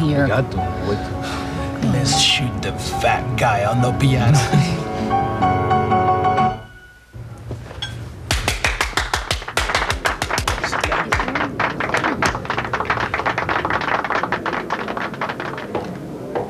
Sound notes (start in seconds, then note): 8.3 audience applauding